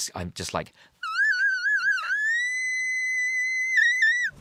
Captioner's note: squealing